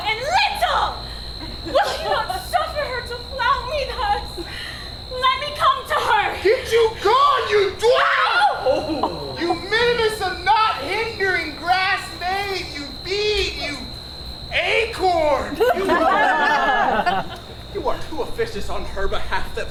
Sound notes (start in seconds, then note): 8.6 Hermia yells; 15.5 audience laughs